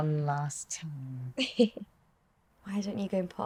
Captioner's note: Tilly chuckling